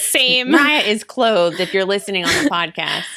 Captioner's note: laughs